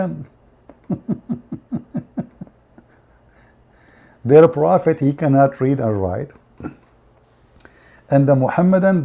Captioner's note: Ketawa